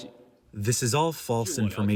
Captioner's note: through translator